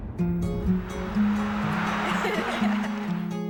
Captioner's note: laughter